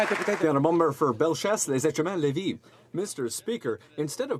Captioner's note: some Applause